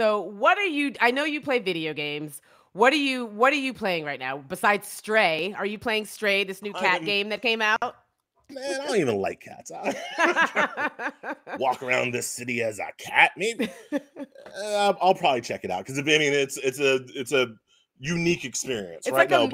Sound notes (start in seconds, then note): 9.8 laughs